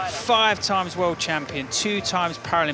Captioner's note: applause